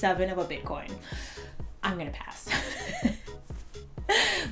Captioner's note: laughs